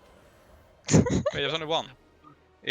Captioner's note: haha